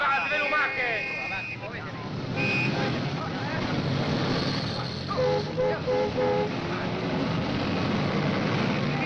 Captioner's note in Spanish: ruido de tráfico